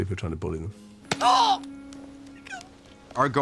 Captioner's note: dobby yelps